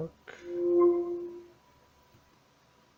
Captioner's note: Alexa connection sound